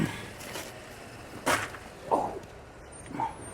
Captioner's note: grunts